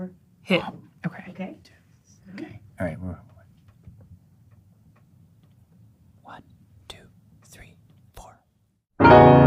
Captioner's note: whispering